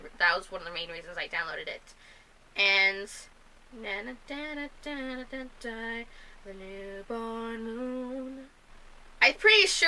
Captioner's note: mimics tune